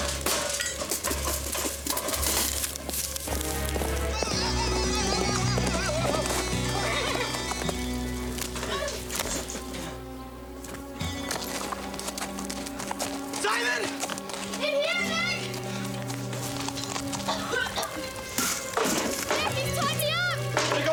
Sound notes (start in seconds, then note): 0.0 banging; 4.3 Nick wailing; 17.2 Angelica coughing; 18.4 tin banging